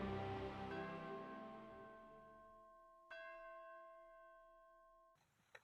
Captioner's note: church bells chiming